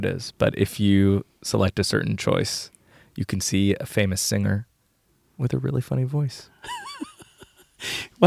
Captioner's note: laughs